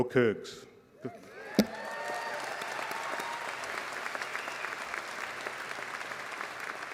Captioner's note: applause